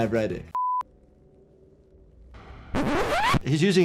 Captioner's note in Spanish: suena un pitido